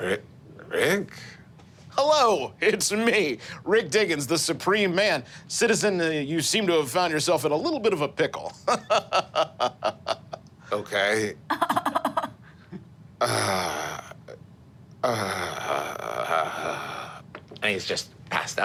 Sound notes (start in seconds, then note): 8.6 laughs; 11.5 laughing; 15.0 sighs